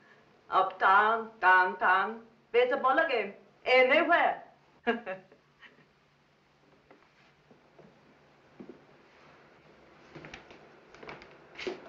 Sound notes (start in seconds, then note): 4.4 laughing